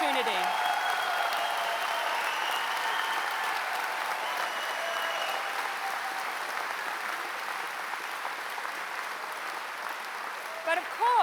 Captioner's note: applause